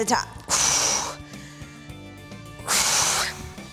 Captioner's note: exhaling